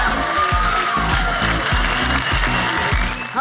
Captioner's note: audience applauding